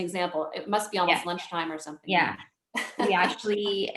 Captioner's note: chuckles